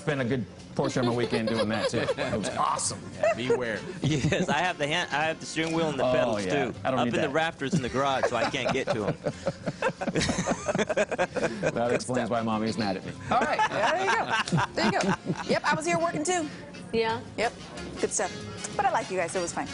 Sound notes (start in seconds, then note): 13.3 laughter